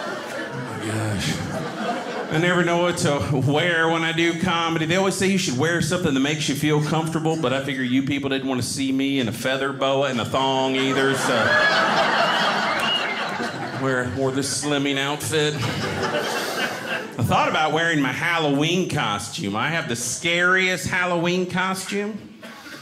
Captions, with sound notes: Oh my gosh. I never know what to wear when I do comedy. They always say you should wear something that makes you feel comfortable, but I figure you people didn't want to see me in a feather boa and a thong either, so. (audience laughing) Wore this slimming outfit. I thought about wearing my Halloween costume. I have the scariest Halloween costume.